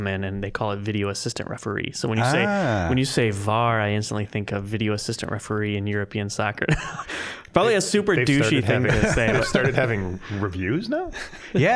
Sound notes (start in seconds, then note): 6.9 laughing